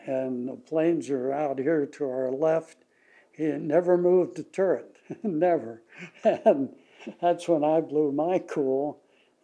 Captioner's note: laughs